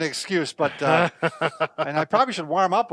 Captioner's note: laughs